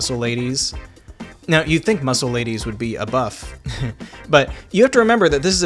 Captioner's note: heh